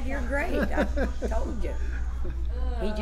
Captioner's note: laughs